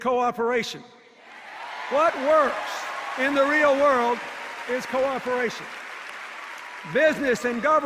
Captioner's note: applause and cheers